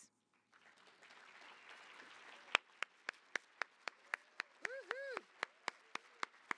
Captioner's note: applause